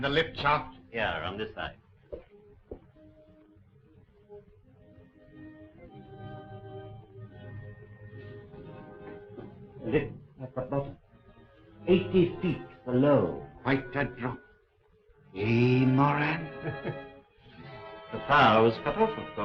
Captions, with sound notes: - Here, around this side. Lift up above 80 feet below. - Quite a drop, eh, Moran? (Moran laughs) - The power was cut off of course,